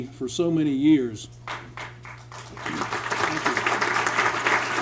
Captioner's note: applause